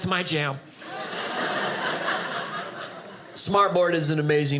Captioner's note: audience laughing